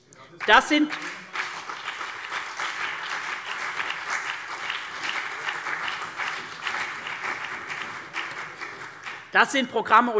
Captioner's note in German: Beifall CDU und BÜNDNIS 90/DIE GRÜNEN